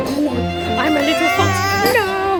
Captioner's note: baby mumbling